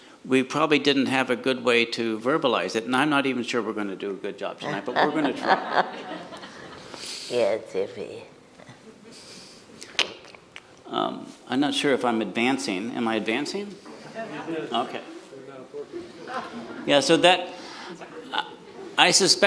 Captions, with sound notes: we probably didn't have a good way to verbalize it. And I'm not even sure we're going to do a good job tonight, but we're going to try. (everyone laughs) - Yeah, it's iffy. - I'm not sure if I'm advancing. Am I advancing? Okay, yeah, so that, I suspect I'm the cow,